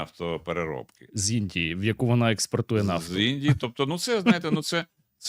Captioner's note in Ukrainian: сміх